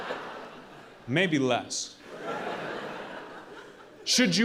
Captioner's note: audience laughing